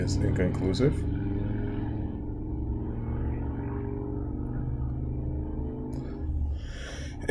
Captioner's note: traffic Sounds